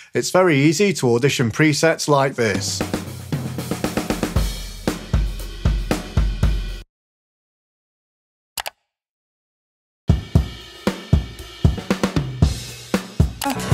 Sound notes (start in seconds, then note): 2.4 drums thump; 2.7 cymbals crash; 8.6 computer mouse clicks; 10.1 drums thump; 10.3 cymbals crash